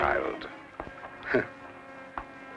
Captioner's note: Hah